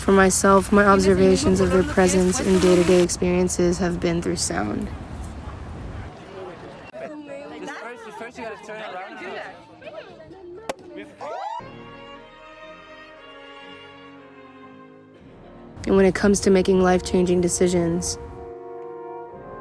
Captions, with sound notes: For myself, my observations of her presence in day-to-day experiences have been through sound. (party chatter) (dramatic classical music) And when it comes to making life-changing decisions,